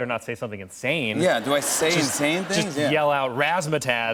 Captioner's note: laughter